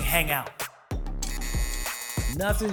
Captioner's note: buzzer beeping